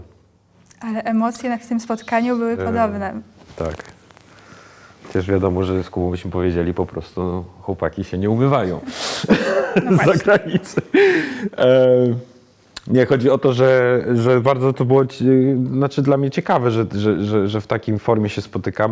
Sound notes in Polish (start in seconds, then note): 9.2 śmiech